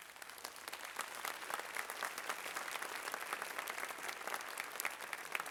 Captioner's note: applause